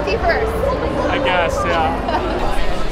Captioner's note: disappointedly